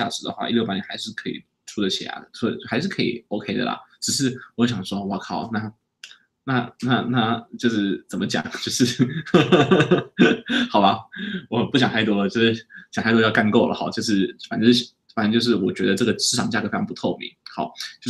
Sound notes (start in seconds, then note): 8.5 laughs